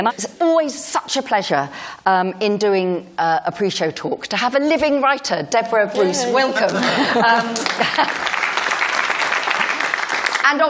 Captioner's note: applause